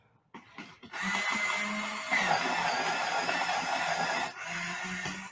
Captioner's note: whirring sound